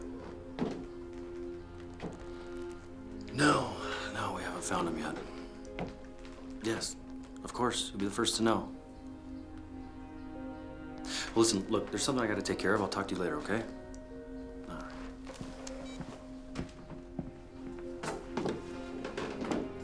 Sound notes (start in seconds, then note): 15.7 phone beeps